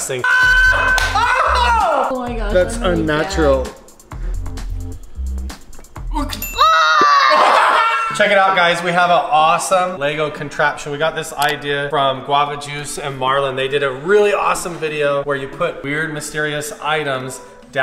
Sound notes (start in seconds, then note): 6.4 yelling